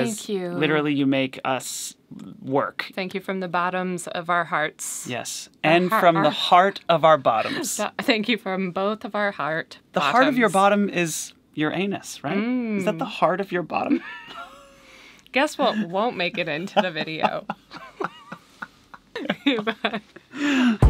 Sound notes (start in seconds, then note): 7.6 laughing; 13.9 both laughing; 15.6 laughing